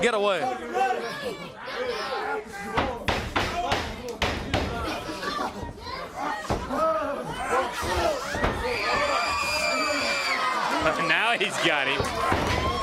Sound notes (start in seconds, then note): 2.9 crowd chatter